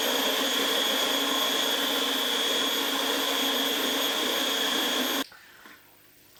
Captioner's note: motor noises